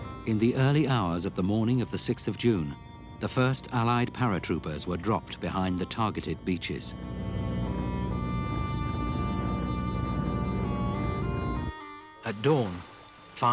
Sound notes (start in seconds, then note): 0.0 engines roaring; 0.0 stirring symphonic music; 8.0 engines roaring; 8.0 stirring symphonic music